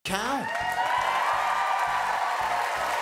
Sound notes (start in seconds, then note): 0.3 audience Cheering